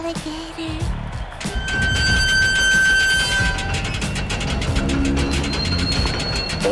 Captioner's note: large metallic door creaks